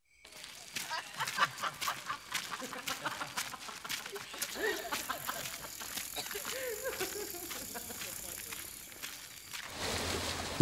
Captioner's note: sounds of happy voices laughing and joking